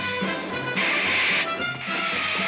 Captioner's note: hissing